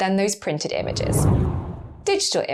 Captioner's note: whooshing air